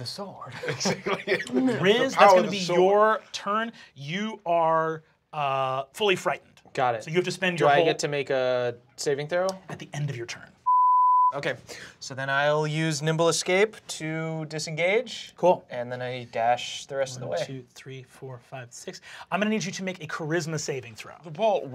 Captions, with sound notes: - The sword. - The power of the sword. - Riz it's gonna be your turn. - You are fully frightened. - Got it. - So you have to spend your whole-- - Do I get to make a saving throw? - At the end of your turn. - (beep) Okay. So then I'll use Nimble Escape to disengage. - Cool. - And then I dash the rest of the way. - One, two, three, four, five, six. I'm gonna need you to make a charisma saving throw.